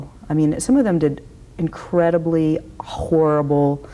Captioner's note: none